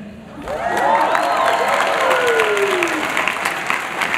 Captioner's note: applause